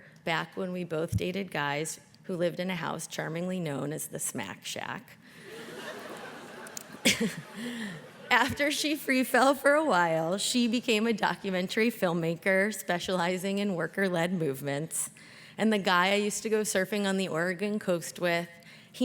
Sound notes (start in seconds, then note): 5.6 all laugh